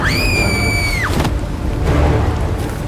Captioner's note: scream